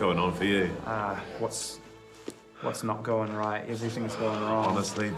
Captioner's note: sighs